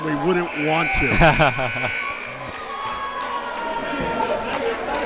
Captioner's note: timer buzzes